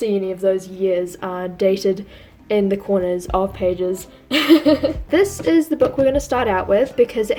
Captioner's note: laughs